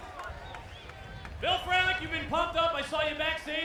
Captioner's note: applause